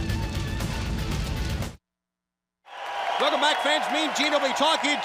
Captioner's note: crowd cheering